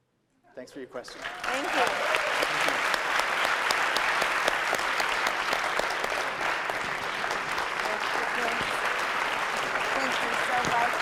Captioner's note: applause